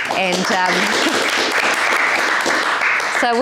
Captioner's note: applause